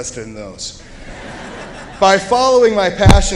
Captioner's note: laughter